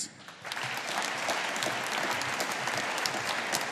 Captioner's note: audience applauding